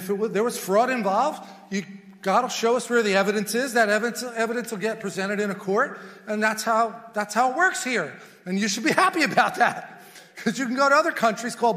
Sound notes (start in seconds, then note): 8.8 chuckles